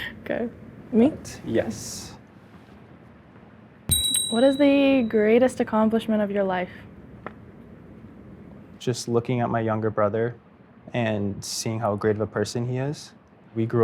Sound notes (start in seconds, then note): 3.9 bell dings